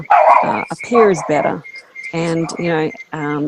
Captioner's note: dog barking